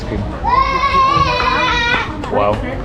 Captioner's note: kid screaming